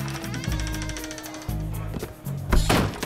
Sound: door creaking

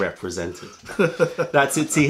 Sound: laughter

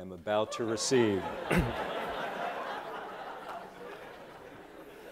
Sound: laughter

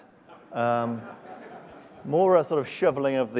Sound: laughs

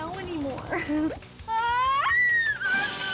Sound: screaming

